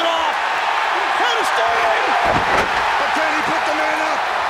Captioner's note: crowd cheering; crowd cheering drowns out commentators